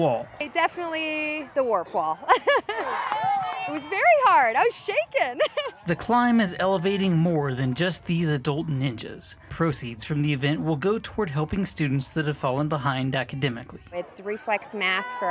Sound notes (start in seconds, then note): 2.2 laugh; 2.6 cheering